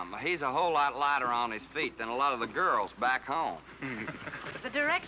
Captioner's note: men Chuckle